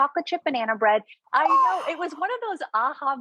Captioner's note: gasping